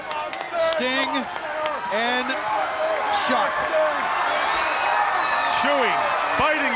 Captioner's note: audience screaming